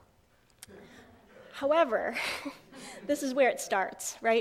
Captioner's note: audience laughs